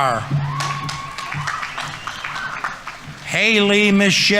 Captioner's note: audience applauding; audience members cheering